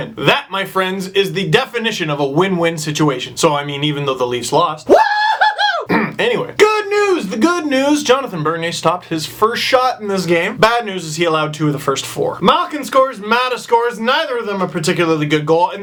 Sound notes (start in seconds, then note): 5.8 clears thoat